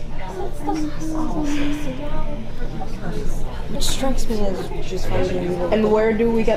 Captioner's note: exasperated sigh